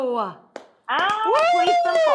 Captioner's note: applauding; Rachael cheering